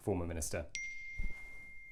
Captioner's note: ping